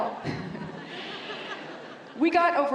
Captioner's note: laughter